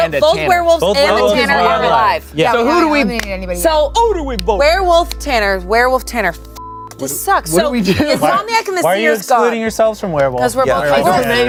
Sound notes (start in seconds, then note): 6.5 beep